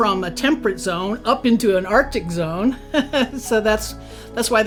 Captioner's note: laughs